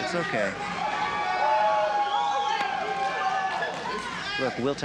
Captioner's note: cheering